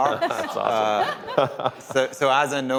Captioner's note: laughter